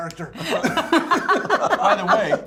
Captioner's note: laughs